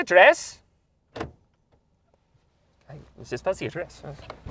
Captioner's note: doors unlock